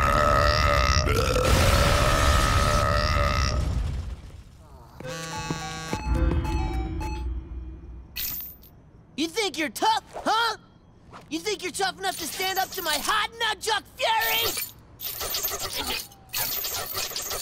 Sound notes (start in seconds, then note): 0.0 belching; 0.0 belching, shattering; 5.1 buzzing, chiming